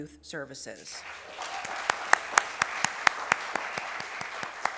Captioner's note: applause